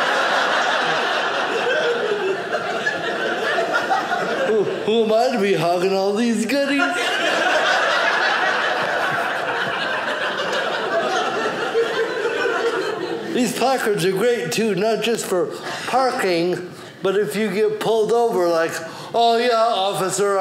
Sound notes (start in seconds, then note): 0.0 audience laughing; 6.6 audience laughing